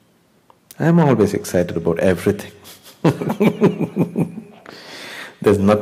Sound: laughs

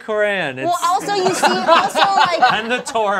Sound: all laughing

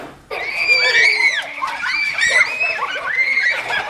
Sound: kids screaming

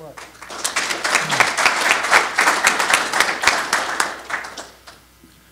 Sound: applause

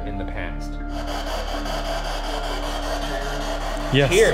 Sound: radio static buzzing

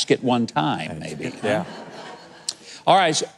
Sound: audience laughing

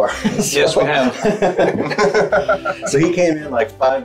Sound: everybody laughing

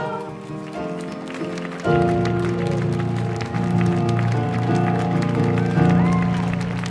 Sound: audience applauding; audience cheering

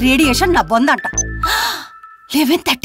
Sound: gasps

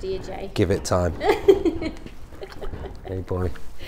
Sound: assistant laughs

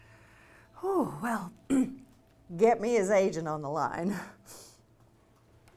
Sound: clears throat

